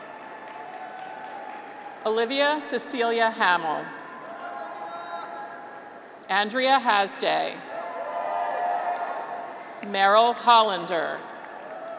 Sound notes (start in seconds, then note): 0.0 audience applauds; 7.6 graduates cheer